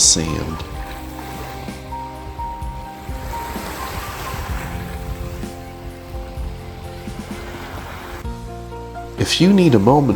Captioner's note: sound of waves